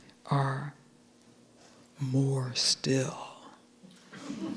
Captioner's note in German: mit tiefer Stimme; Gelächter